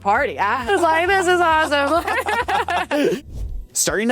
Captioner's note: both laughs